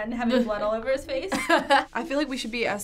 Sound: laughs

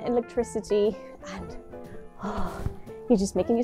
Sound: sigh

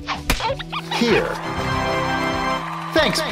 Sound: audience hooraying

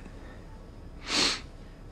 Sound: sniffles

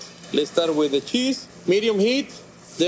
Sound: none

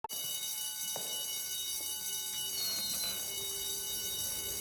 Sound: school bell ringing

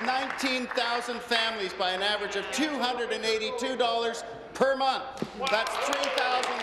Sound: applause

